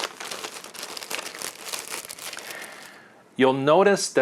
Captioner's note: rustling loudly